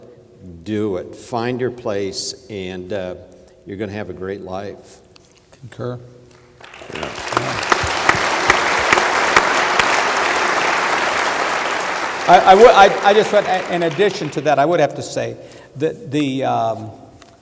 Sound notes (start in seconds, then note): 5.1 applause